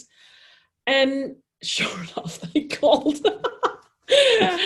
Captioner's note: laughs